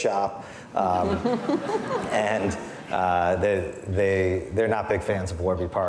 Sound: audience laughing

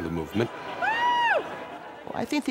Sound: cheering

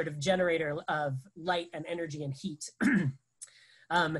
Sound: clears throat

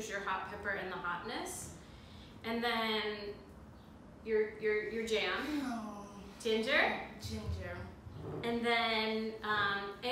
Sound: sigh

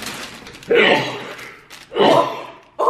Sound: sneezing

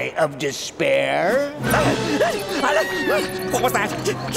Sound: panting

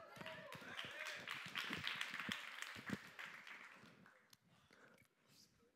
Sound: applause

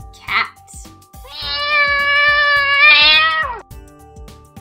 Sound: cat meowing

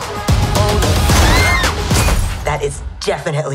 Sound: screaming

